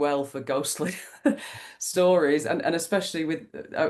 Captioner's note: laughs